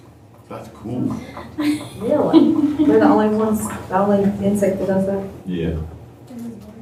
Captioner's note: laughter